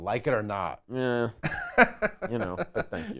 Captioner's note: laughing